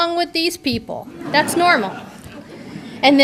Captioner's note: audience laughter